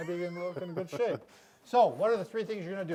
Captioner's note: laughing